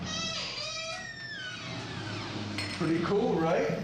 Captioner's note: door creaks